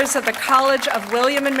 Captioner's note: applause